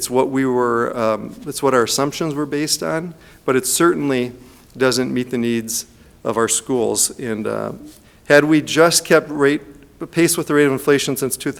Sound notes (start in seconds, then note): none